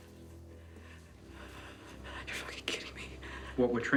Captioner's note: whispers